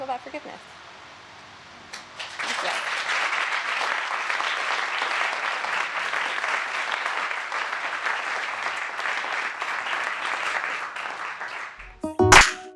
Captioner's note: applause